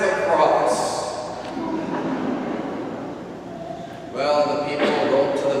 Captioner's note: congregation laughs